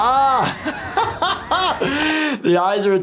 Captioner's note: laughing